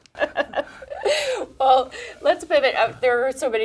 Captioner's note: laughs